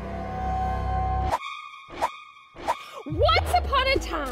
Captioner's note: screeching sound